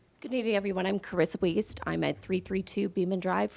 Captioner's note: none